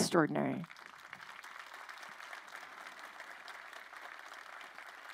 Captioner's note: crowd applauding